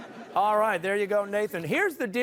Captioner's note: crowd laughs